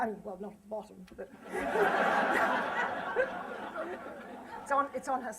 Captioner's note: laughter